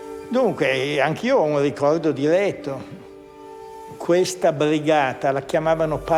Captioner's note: speaks in foreign language